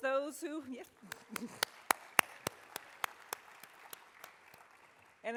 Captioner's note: audience applauding